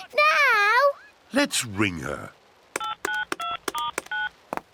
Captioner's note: phone beeps